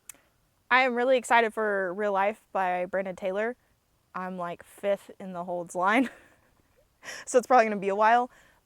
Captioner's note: laughs